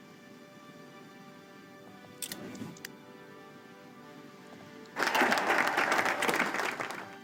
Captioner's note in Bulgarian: Аплодисменти